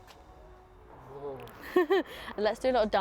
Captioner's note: wind blows